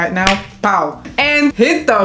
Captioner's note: pow!